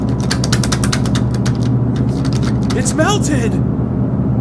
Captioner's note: door handle noise